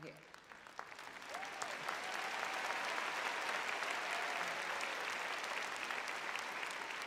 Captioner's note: audience claps